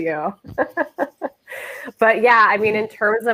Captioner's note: laughs